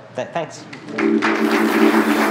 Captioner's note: applause